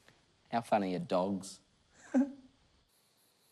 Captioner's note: giggles